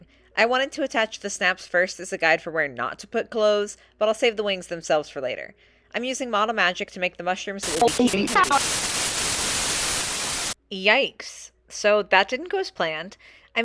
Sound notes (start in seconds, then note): 7.6 static